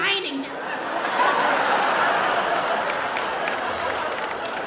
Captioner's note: audience laughs